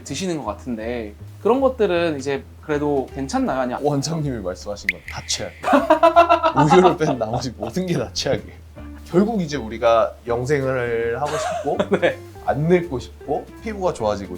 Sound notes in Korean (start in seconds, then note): 5.6 웃음; 11.2 웃음